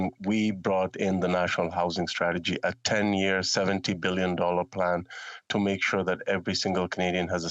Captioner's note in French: voix de l'interprète